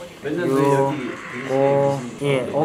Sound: rushing

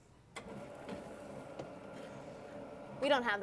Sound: board hums

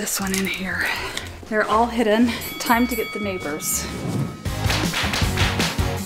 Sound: bell ringing; upbeat music

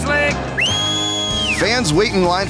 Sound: whistling

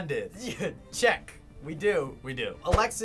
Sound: chuckles

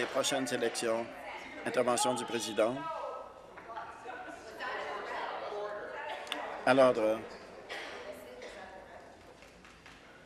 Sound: applause

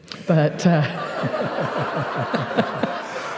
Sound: laughter

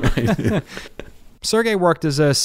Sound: laughing

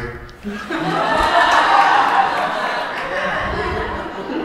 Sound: crowd laughing

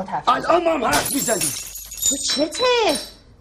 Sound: breaking glasses

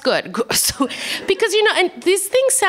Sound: laughter

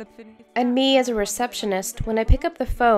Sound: speaking in Spanish; english Voiceover

